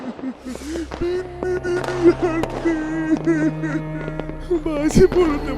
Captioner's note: sobbing